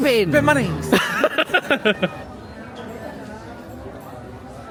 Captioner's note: laughing